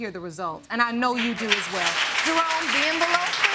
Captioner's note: audience applauding